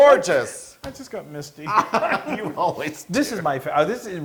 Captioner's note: laugh